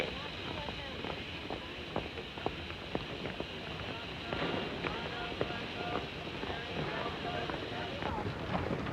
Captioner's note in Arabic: هسهسة بخار